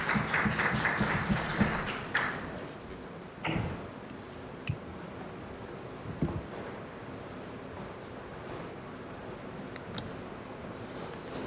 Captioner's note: applause